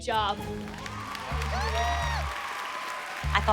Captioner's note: cheering and applause